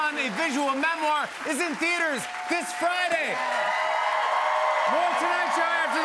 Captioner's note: cheers and applause